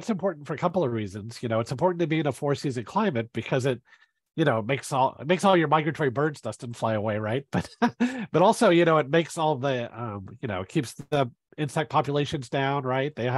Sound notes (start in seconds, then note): 7.5 chuckles